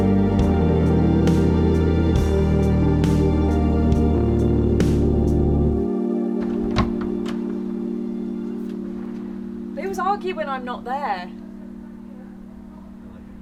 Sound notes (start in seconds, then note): 6.4 door rattling